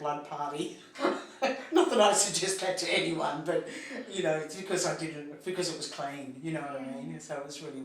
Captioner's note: laughs